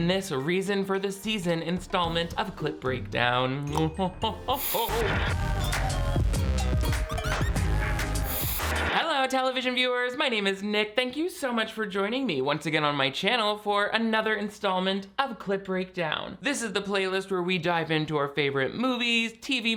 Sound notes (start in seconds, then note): 5.7 TV squelching; 7.3 quirky electronic music; 8.2 TV squelching